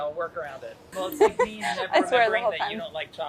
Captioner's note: laughs